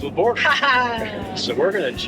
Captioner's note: laughs